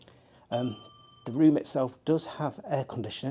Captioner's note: bell ringing